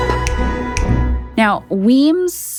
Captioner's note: fingers snapping